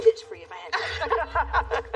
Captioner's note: laughter